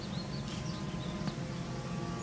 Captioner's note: footsteps